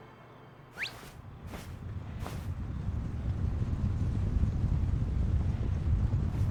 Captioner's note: thumpthumpthump